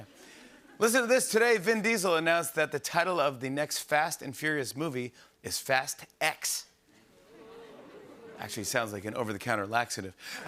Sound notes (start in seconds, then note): 7.2 audience oohs